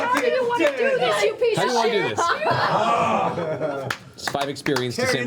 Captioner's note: cheering